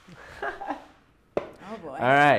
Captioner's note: laughs